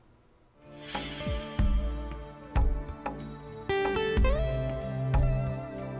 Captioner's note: haunting music; air whooshing